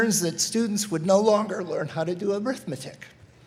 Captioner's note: none